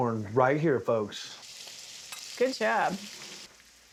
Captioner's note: sizzling sound